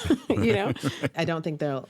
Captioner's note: laughter